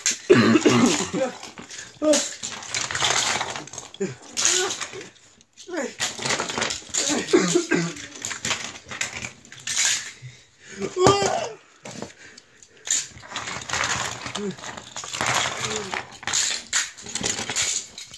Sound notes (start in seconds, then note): 1.2 exclaims; 11.0 scream